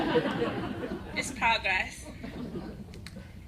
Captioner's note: laughter